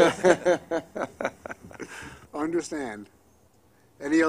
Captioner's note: laughter